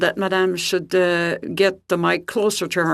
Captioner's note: speaking FRENCH